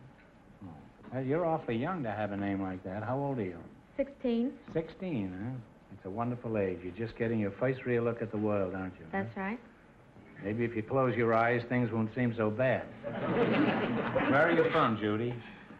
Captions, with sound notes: You're awfully young to have a name like that. How old are you? - 16. - 16, huh? That's a wonderful age, you're just getting your first real look at the world, aren't you. - That's right. - Maybe if you close your eyes, things won't seem so bad. (audience laughter) Where are you from Judy?